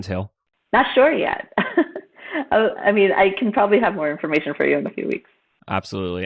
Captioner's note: laughs